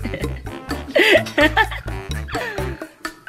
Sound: laughter

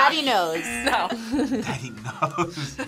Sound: buzzer; laughs

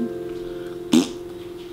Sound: fart noise

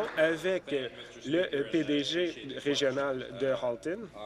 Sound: applause

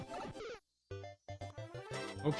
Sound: none

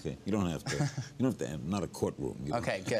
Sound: murmur

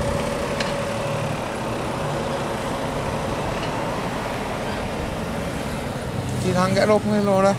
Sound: traffic noise

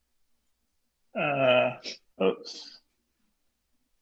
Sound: laughs

